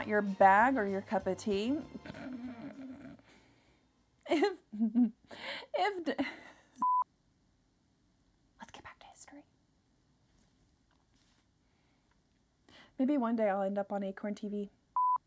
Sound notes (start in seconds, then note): 2.0 growls; 6.8 beeps